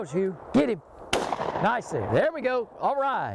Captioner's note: gunshots firing